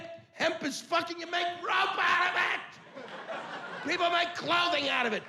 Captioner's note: yelling